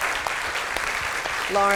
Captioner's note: applause